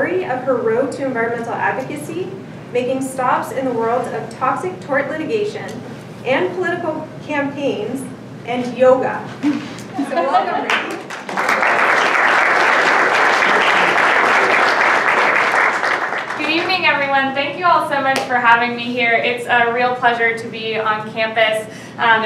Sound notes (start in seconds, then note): 10.3 audience applause